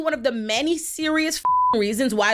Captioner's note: beep